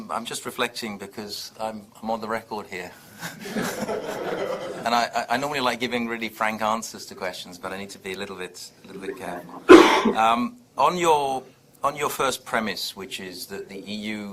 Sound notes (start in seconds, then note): 3.5 audience laughs